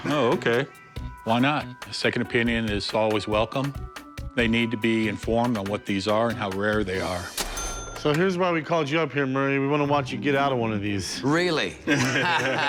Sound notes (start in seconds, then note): 7.3 register dings; 11.8 laughter